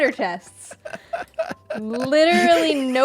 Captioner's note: laughs